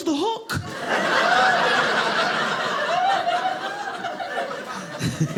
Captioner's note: audience laughing